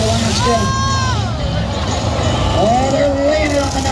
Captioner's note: crowd cheers